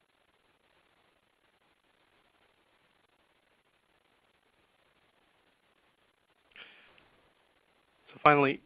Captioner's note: silence